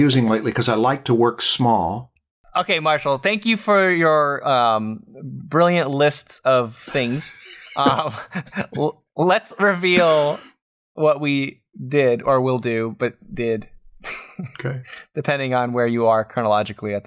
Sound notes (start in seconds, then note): 6.8 chuckles